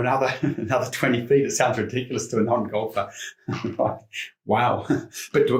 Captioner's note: chuckles; chuckles